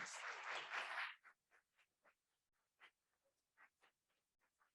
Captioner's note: audience applauding